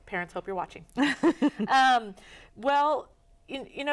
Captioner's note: laughs